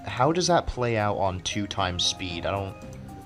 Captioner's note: none